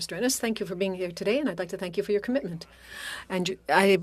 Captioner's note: speaking French